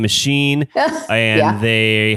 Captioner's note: laughs